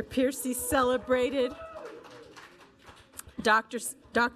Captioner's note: audience applauding